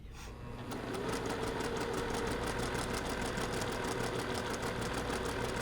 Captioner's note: sewing machine churning